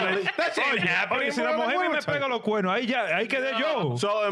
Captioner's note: yelling